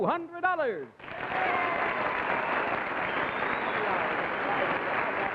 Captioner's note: audience cheers